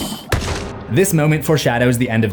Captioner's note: pumpkin explodes